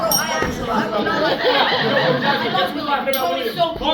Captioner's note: bro arguing ensues